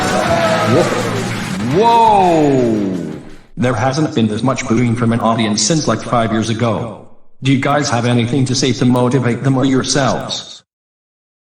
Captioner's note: audience booing; exclaims